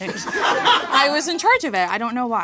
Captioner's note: audience laughing